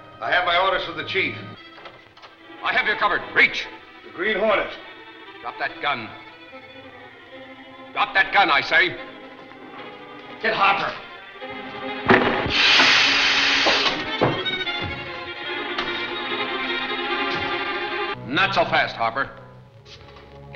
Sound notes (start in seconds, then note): 9.7 frenetic music; 12.3 gun explodes; 13.8 frenetic music